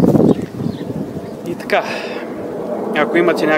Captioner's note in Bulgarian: Въздишка